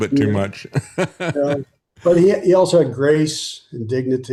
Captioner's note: laughing